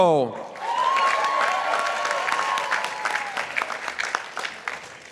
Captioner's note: participants applauding